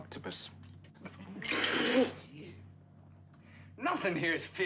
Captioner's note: spitting